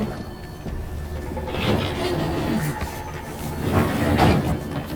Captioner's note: door opening